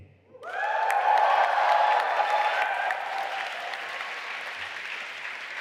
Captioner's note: audience applauding and cheering